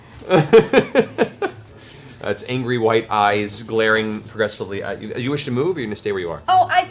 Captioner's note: chuckles